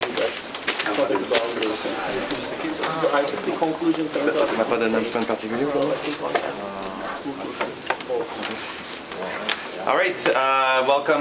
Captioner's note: background chatter